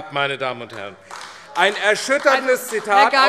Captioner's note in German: Beifall AfD